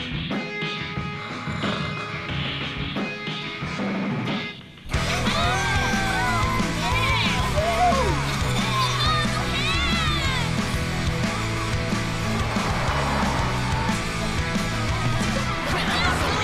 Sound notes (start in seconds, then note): 4.5 all cheering